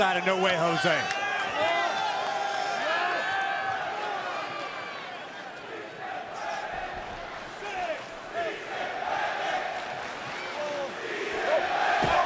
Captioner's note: crowd cheering